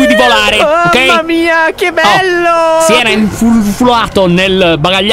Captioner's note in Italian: alzando la voce